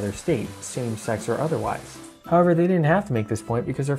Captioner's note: shower noises ends